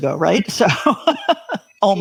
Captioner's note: laughs